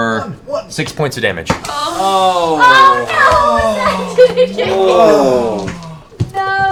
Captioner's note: groaning